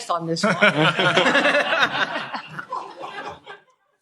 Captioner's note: laughter